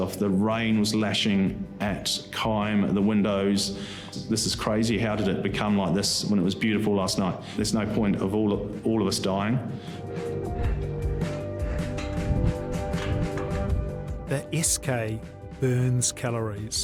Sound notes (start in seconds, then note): 10.0 soft tense music continues; 11.7 metal clanging